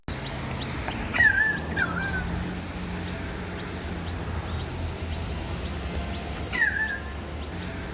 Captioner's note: bird song